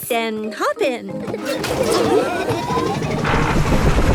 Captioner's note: laughing